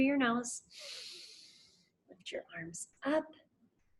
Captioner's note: inhales heavily